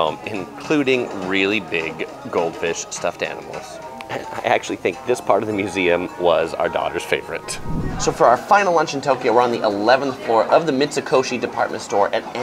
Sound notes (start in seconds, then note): 7.4 air whooshes